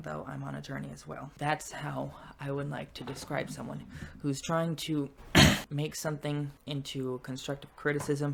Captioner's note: clears throat